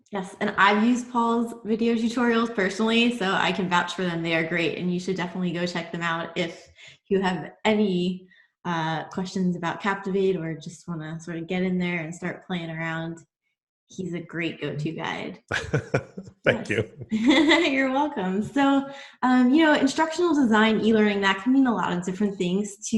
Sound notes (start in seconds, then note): 15.5 laughs